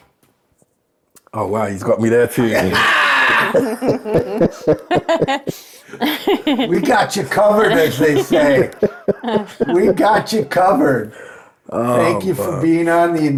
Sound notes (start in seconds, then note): 3.1 laughing; 4.4 all laughing; 9.2 laughing